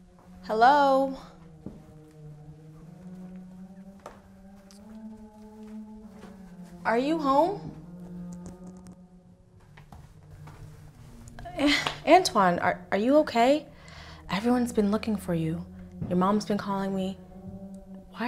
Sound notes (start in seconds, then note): 0.0 gentle foreboding music; 11.6 scoffs